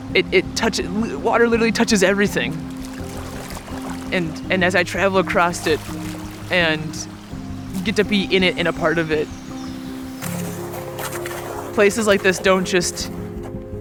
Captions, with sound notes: It touches, water literally touches everything. [water gurgling] And as I travel across it, and get to be in it, and a part of it, places like this don't just